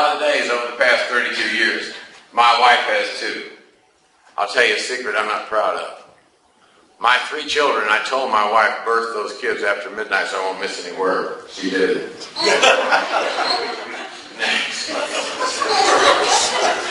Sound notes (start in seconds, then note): 12.3 class laughs